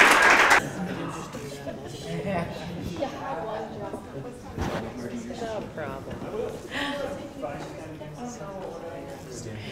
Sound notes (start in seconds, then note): 2.9 crowd chatters